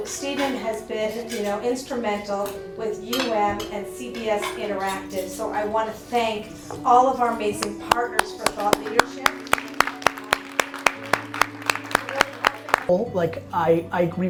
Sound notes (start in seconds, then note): 7.9 Gary applauds; 9.6 applause